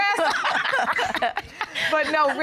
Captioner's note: laughter